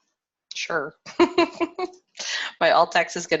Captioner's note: laughs